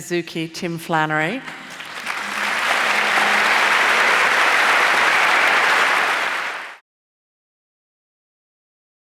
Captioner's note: applause